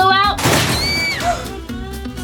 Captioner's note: screams